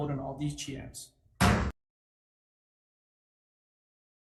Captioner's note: gavel bangs